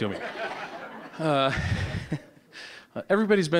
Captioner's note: audience laughing